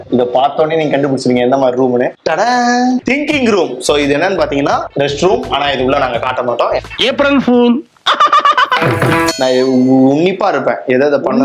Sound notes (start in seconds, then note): 8.0 laughs